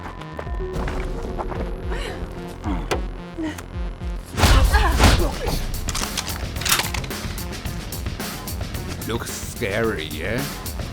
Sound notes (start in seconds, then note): 1.9 Raul grunts; 3.3 Ping moans; 4.3 blows thudding; 6.0 gun snaps